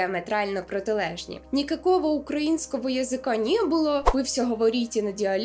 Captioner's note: Ukrainian